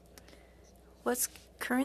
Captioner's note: speaking FRENCH